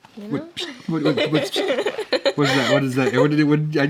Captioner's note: whispering